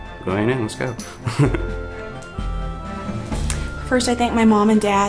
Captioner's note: laughter